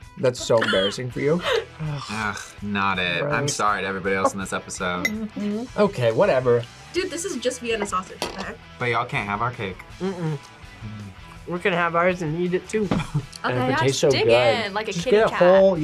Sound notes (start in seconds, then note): 13.0 laughs